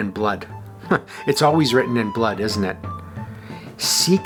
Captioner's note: chuckles